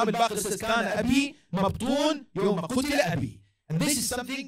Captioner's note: Arabic